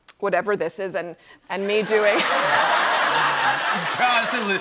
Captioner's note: laughter